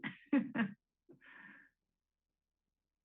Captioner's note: laughter